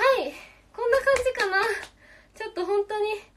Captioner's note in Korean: 짝짝짝